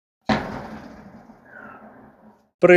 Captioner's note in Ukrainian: вибух